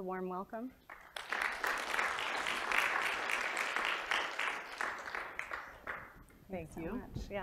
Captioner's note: applause